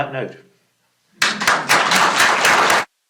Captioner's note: applause